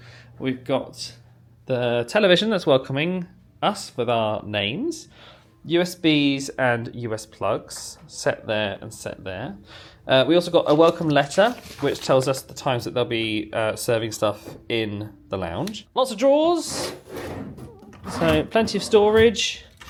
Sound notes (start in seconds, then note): none